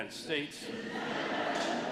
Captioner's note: laughter